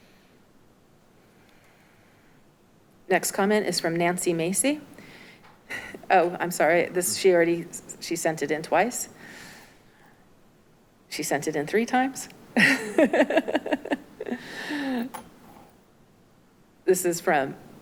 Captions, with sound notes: Next comment is from Nancy Macy. Oh, I'm sorry, this she already, she sent it in twice. She sent it in three times. (clerk chuckles)